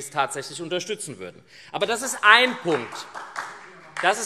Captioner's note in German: Beifall